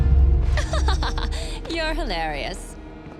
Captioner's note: she laughs